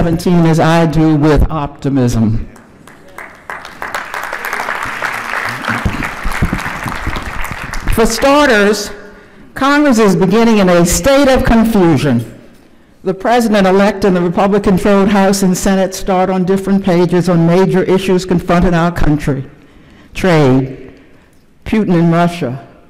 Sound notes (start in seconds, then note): 6.6 applause